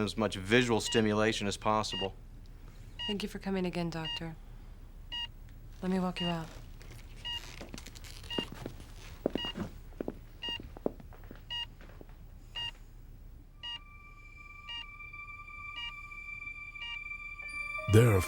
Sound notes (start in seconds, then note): 6.4 footsteps leaving room; 10.5 heart monitor beeping; 15.7 melancholy music